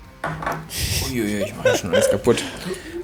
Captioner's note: mumbles